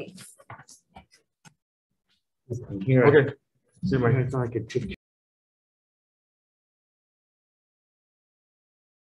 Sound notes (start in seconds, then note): 2.5 group chattering